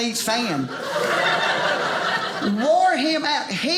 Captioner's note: audience laughing